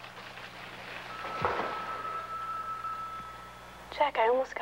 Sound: phone ringing

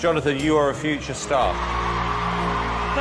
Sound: crowd cheering

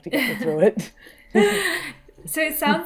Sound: women chuckling

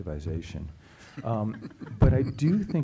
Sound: chuckling

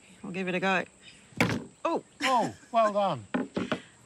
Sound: laughs

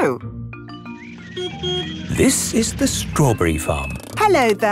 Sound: beeps

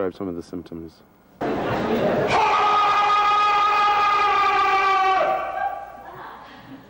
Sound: loud scream in anguish

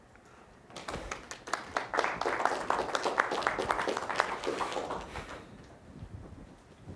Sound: applause

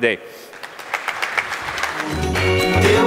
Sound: applause; pop music playing

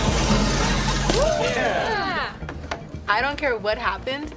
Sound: all cheer

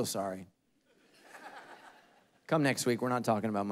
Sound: congregation laughing

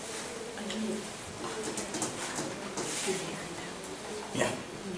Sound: audience members murmur

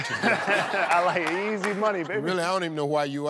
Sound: laughs

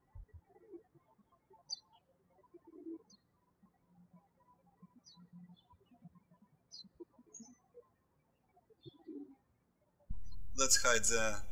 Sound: birds chirping

